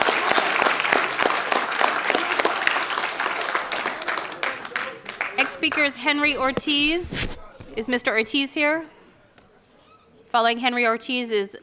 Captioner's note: applause